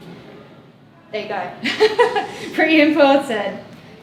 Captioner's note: laughs